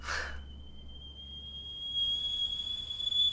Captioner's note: kettle whistle grows louder